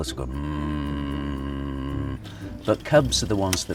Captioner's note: grumbling sound